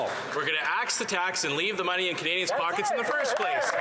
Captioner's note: some Applause